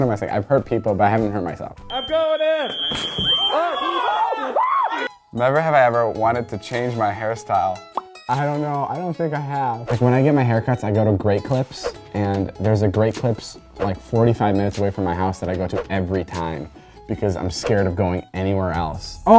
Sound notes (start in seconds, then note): 3.2 screaming